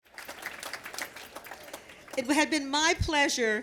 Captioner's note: applause